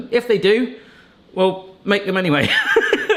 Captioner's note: laughs